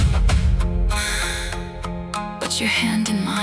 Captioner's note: pause - cigarette inhale